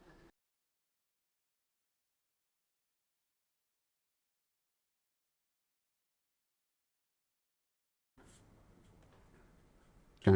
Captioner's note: silence